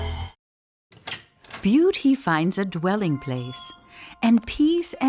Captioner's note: voice-over